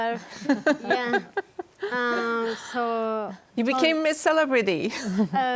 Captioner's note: laughter